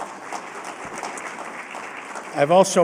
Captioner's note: applause